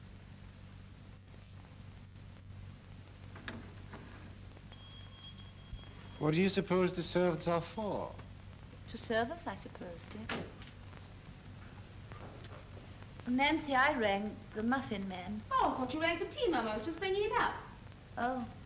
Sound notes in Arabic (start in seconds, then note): 3.2 نقرات المزلاج; 4.6 رنين; 10.2 طرقات الباب